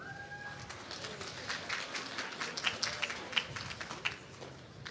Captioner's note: applause